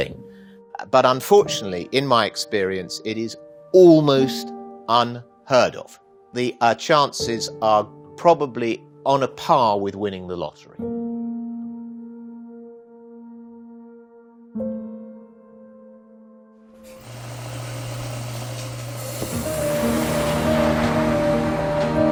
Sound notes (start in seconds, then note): 16.8 machine whirring; 19.6 soft music